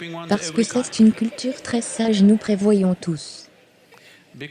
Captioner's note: audience laughs